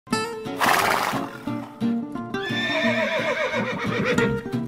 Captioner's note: horse neighing